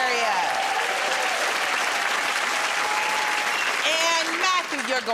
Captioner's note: cheers and applause